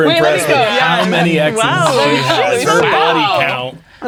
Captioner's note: others laughing and talking